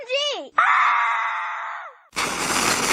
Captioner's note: both screaming